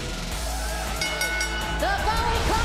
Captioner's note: crowd cheering; bell ringing